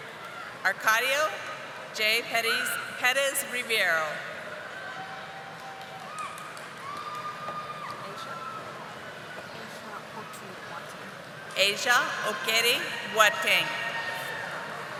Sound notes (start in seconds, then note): 10.0 audience applauding